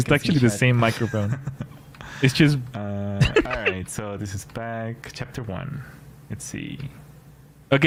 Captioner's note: laughter